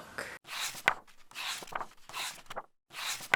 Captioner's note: pages turning